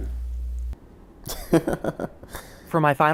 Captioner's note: laughing